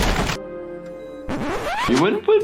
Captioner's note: record scratches